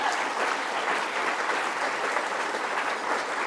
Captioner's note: applause